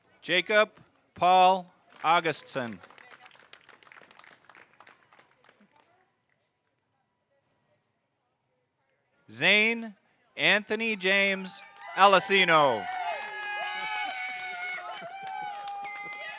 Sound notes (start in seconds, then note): 1.9 audience applauding; 10.5 audience cheering